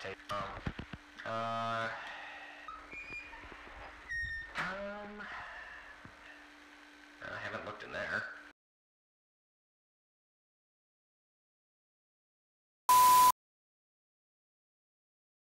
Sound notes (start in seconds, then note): 2.6 door creaks open; 12.9 distortion